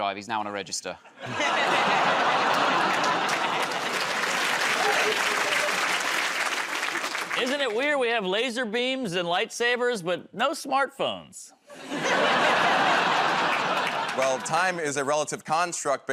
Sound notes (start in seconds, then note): 1.1 laughter; 3.9 applause